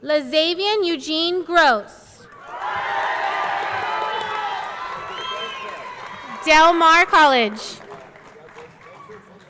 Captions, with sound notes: Lazavien Eugene Gross. (audience cheering) (audience clapping) Del Mar College.